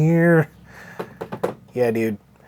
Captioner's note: excited tapping